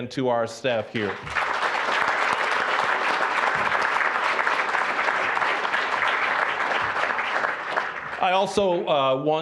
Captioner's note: applause